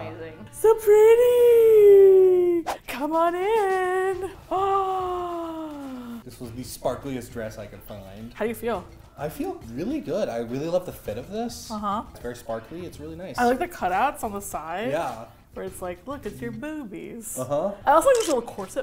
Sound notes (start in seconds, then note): 4.6 gasps